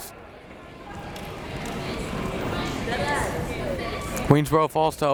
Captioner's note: crowd members talking